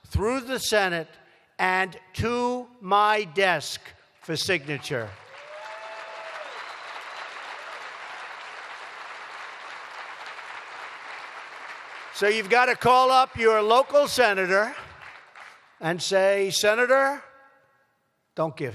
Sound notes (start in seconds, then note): 5.1 applause